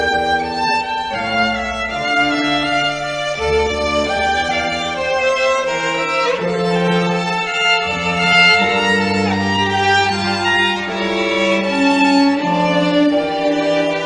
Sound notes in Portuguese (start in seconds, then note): none